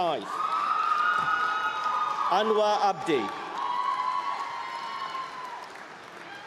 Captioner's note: applause; screaming